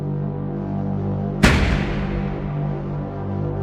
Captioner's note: intense music; gunshot